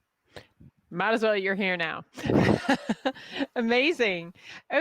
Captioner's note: laughs